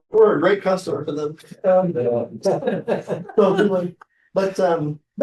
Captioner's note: laughter